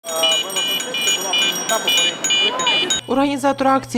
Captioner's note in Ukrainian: лунають велосипедні дзвони